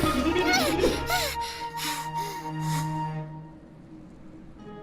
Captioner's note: Mimi panting